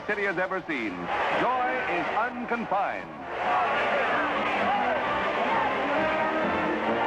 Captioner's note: crowd cheering